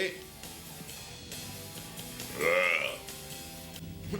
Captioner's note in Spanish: homem arrota